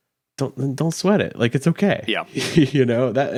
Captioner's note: laughs